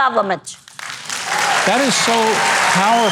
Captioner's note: audience applauds